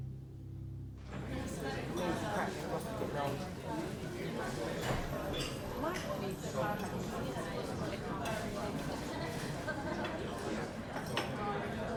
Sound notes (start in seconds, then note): 1.4 background people chattering